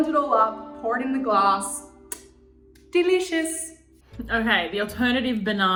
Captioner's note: kissing